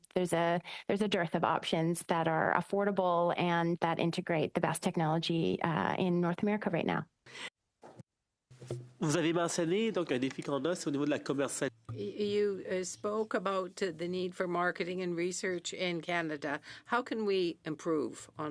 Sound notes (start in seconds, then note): 12.1 speaking French